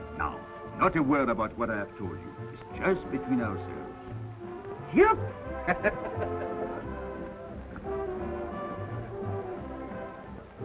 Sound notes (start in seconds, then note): 5.5 laughs; 7.2 cheerful music